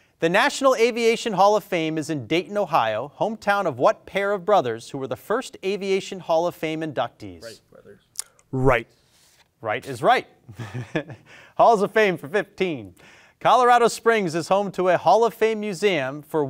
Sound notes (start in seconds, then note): 10.5 chuckles